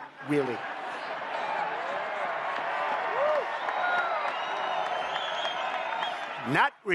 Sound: applause

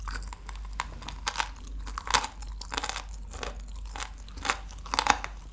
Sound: crunchy

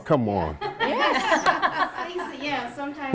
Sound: laughter

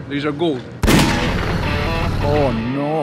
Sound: gunshot

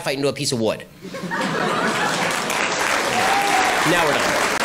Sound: laughter and applause

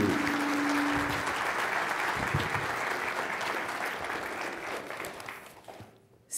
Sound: applause

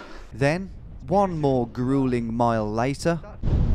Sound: voiceover

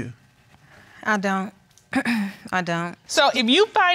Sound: clears throat

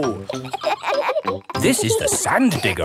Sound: kids laughing

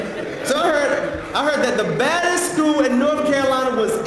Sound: laugh

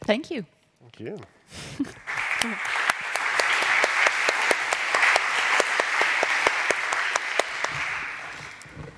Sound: applause

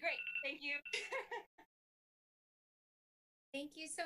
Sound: laughing

